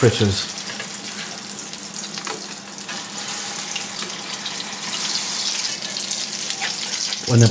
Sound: sizzlin'

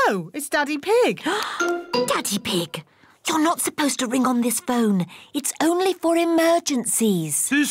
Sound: gasps

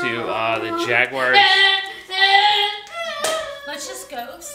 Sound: screaming

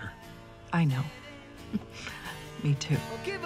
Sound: chuckles

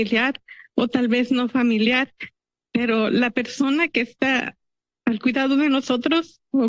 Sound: speaking in Spanish

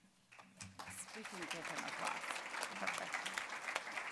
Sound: applause

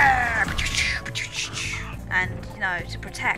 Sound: gunshot Noises???

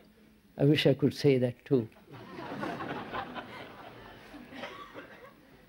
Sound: laughter

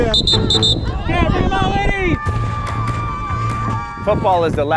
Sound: whistle blowing; man shouting

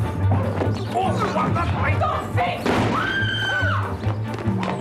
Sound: screaming

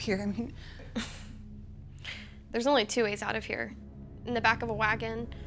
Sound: chuckles

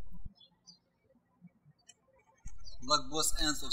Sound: birds chirping

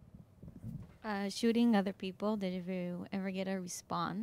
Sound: voiceover

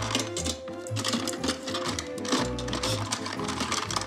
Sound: jaunty music; utensils clatter, rattle

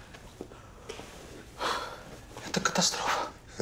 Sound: sighs

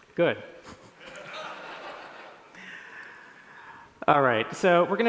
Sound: laughter

